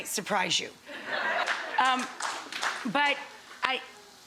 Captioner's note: audience laughing